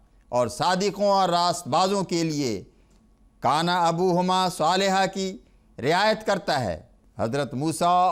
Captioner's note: Arabic